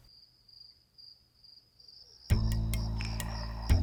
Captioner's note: cricket chirps